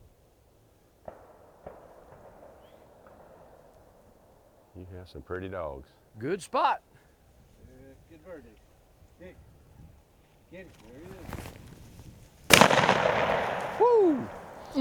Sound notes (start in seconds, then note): 1.0 distant gunshots echo; 12.5 gunshot cracks